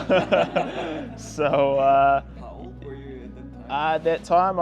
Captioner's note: laughing